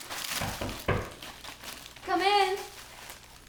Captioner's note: knocking at door